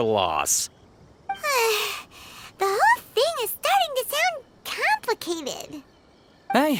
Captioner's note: sigh